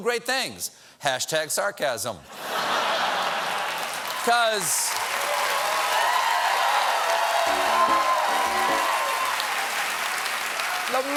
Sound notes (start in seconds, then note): 2.3 laughter; 3.1 cheers and applause; 7.4 piano riff